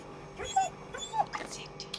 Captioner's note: dog whimpering